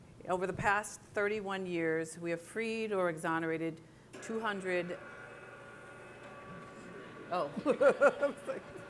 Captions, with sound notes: Over the past 31 years, we have freed or exonerated 200. (projector screen whirring) Oh.